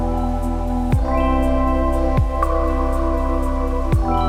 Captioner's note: none